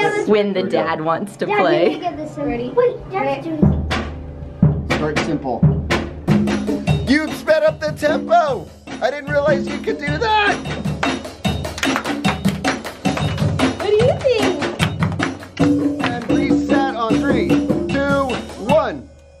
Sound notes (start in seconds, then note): 10.9 clapping; 11.0 drums banging